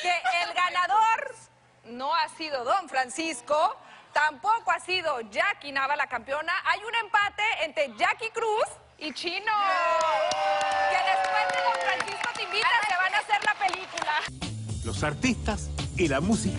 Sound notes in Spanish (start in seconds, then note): 11.6 Aplausos; 11.6 Exclamaciones